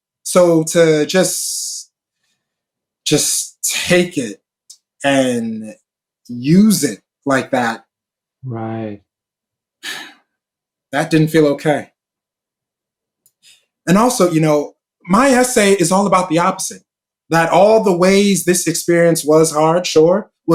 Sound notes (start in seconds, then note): 9.8 sighs